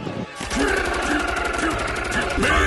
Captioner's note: everybody loudly screaming and punching